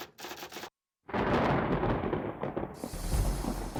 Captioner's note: typewriter keys clacking; thunder rumbles